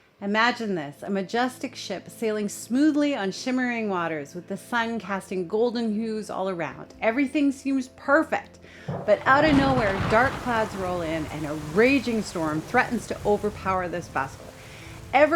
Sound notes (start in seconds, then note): 9.6 thunder rumbling